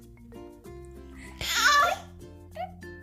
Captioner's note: baby sounds